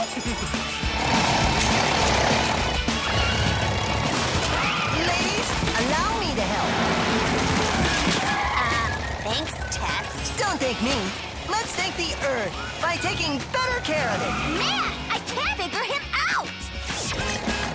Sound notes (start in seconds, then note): 2.0 humming